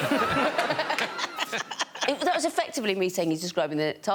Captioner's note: all laughing